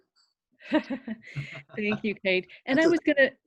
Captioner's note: laughing